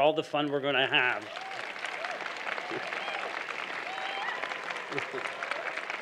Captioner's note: applause